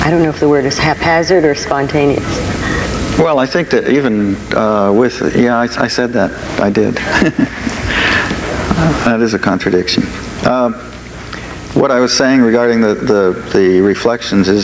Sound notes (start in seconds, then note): 6.9 laughs